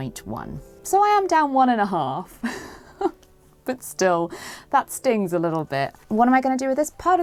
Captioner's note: chuckles